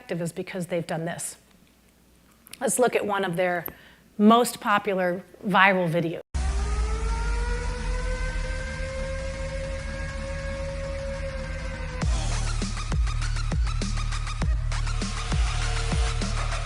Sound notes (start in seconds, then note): 6.3 siren blaring; 13.0 upbeat music